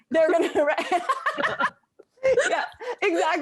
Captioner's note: laughing